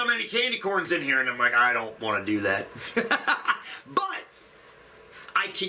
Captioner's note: laughs